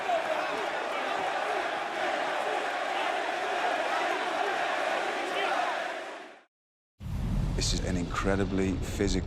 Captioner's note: crowd cheering